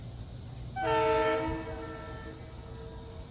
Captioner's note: 2nd Train Horn Blow